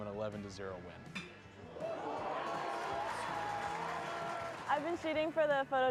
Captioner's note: crowd cheering